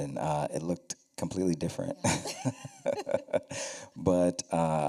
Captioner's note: laughter